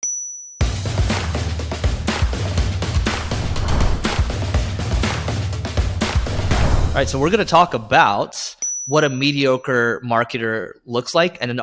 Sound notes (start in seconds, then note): 0.0 bell dings; 2.0 upbeat music; 3.0 screen whooshes; 4.2 upbeat music continues; 6.0 screen whooshes